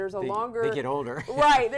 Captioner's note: laughter